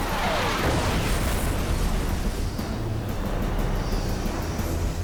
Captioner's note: explosion